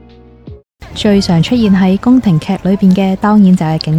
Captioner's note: Korean